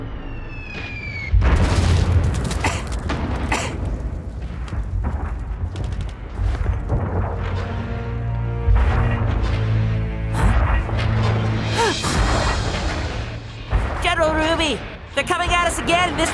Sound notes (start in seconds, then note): 0.3 sound of a bomb dropping; 1.4 explosion; 3.4 coughs